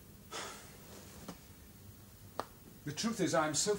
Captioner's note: sighs